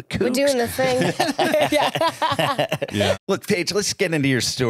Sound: all laugh

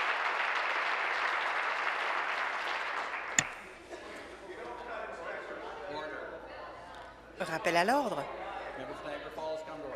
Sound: applause

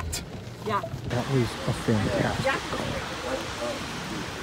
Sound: quietly

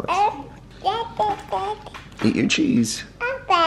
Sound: babbles

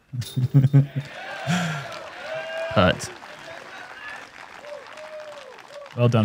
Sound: applause

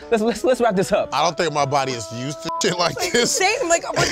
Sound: beep

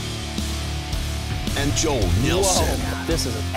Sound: voiceover

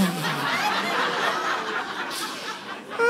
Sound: blows raspberry

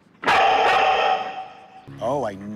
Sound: barking echoes

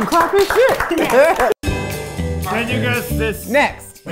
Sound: everyone clapping

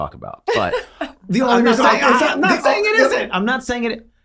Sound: both chattering

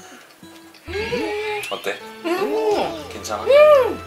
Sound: appreciative sounds

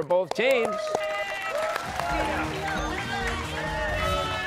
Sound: cheers and applause

